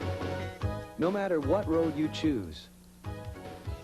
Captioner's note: voiceover